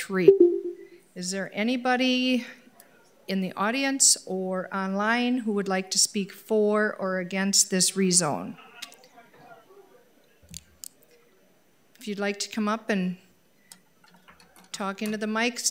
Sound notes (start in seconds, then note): 8.3 people chattering